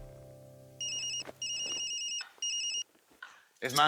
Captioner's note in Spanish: Suena el celular